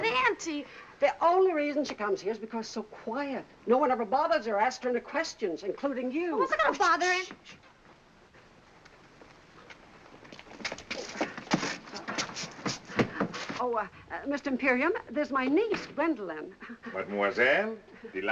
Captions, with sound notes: -But, auntie-- -The only reason she comes here is because so quiet. No one ever bothers her asking her questions, including you. -I wasn't gonna bother-- -[shushes] Mr. Imperium, this is my niece, Gwendolyn. Mademoiselle.